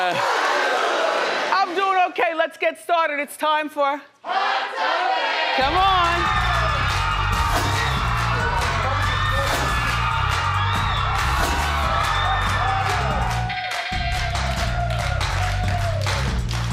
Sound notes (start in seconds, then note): 6.6 upbeat music; 7.9 audience cheering